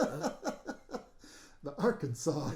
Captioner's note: laughing